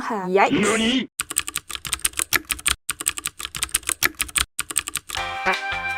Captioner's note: furious typing